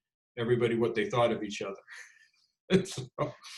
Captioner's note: laughs